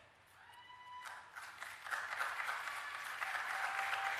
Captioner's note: applause and Cheering